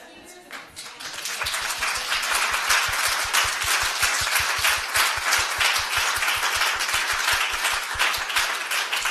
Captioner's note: applause